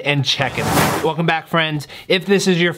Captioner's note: air whooshing